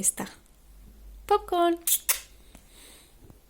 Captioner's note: loud kiss